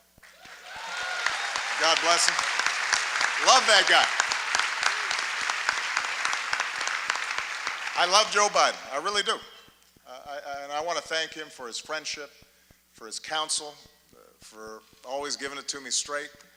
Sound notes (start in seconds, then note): 3.0 applause